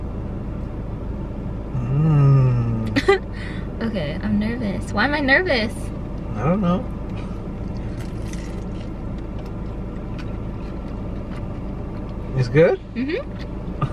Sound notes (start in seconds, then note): 3.0 laughter; 7.6 chewing noises